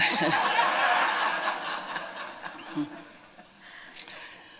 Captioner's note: laughter